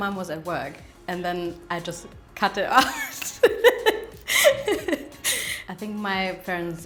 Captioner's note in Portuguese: risos